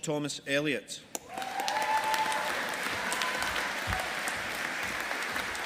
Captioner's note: audience applauding